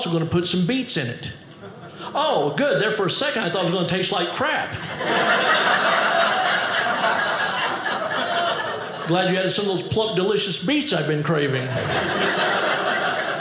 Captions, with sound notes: "going to put some beets in it." Oh, good. There for a second, I thought it was going to taste like crap. (audience laughing) Glad you have some of those plump, delicious beets I've been craving.